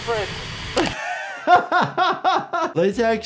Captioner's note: laughing